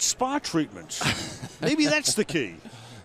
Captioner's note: laughs